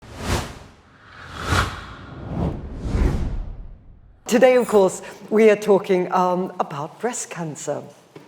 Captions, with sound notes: (air whooshing) - Today, of course, we are talking about breast cancer,